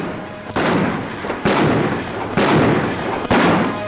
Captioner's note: guns bang